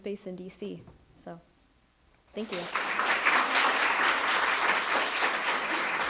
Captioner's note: audience applauds